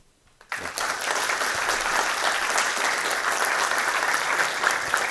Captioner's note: audience applauding